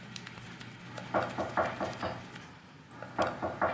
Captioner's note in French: On frappe à la porte